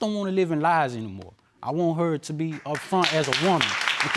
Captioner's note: clapping